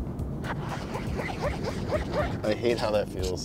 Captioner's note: squeaking